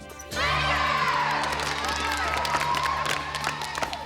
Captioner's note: applause